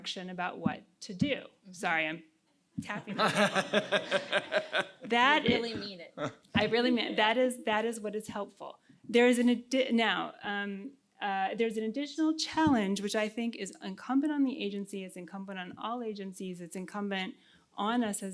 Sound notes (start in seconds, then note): 3.0 laughs